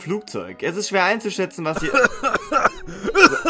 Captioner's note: coughs